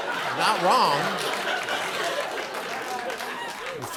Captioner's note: laughter and applause